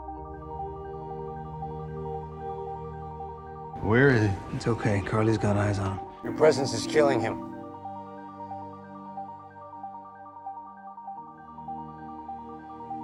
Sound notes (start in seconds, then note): 6.5 voiceover